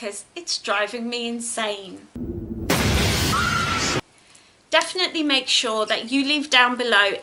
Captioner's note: scream sound